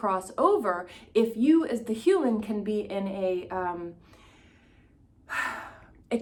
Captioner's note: sighs